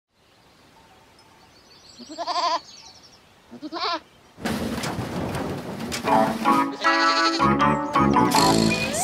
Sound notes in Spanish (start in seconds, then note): 0.0 Sonido de chivo y redoblante; 6.1 Música Alegre; 6.7 Sonido de chivo